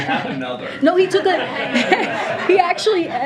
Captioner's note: laughter